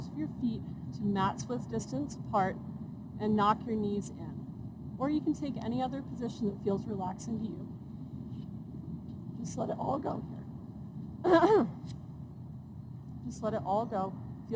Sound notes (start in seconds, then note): 11.2 clears throat